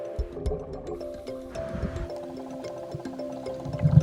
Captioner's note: water bubbling